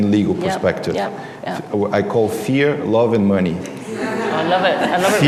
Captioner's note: laughter